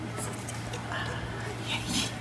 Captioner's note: whispering